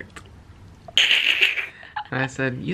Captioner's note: giggling